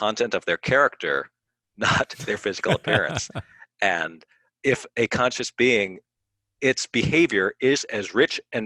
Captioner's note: laughs